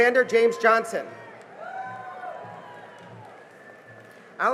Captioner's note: cheering and applause